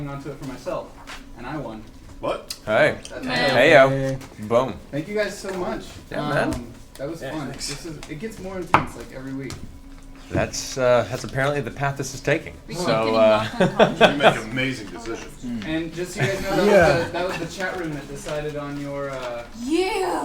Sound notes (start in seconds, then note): 16.1 all laugh